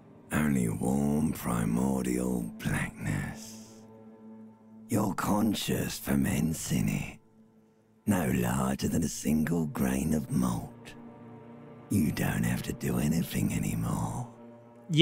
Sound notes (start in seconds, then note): 3.5 subtle ambient noise